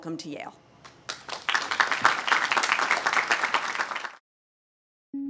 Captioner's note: audience applauding